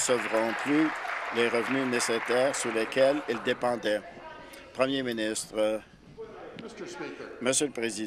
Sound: applause

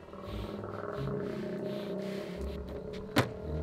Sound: eerie music; low growl

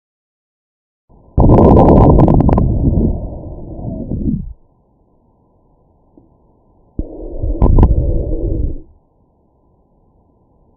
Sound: eerie noises

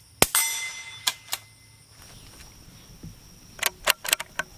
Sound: gun reloading and metal ping; gun reloading and metal ping

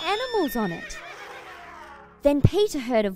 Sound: horses neighing, elephants trumpeting

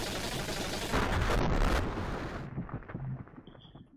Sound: explosion

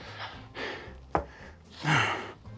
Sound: sighs; grunting

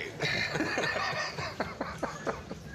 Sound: laughs

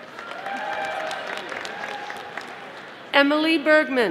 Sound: audience applauding

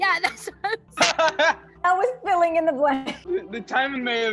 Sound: laughs

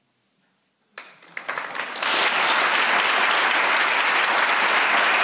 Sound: audience applauding

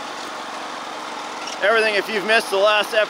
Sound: engine roars

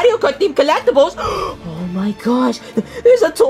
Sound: gasps

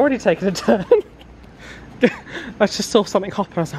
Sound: chuckling

